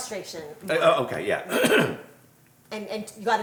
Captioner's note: clears throat